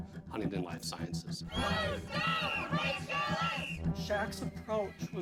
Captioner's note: chanting